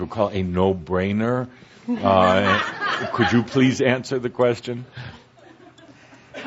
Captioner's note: laughter